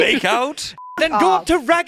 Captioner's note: beep